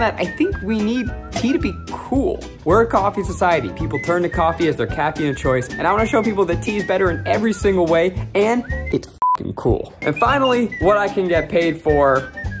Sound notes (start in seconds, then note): 10.0 beeps